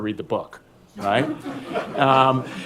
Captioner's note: laughter